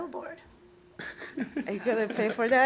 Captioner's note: laughing